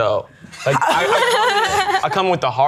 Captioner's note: pair laughing